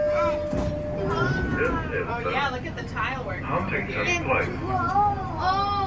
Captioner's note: ding